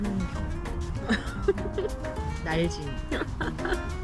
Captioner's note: laughing